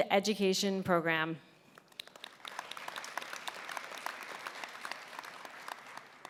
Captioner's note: applause